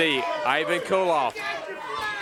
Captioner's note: crowd cheering